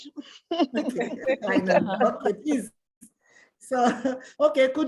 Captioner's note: laughs